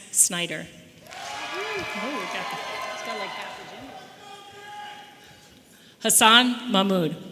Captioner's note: audience applauding and cheering